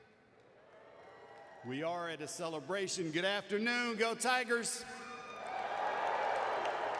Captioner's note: applause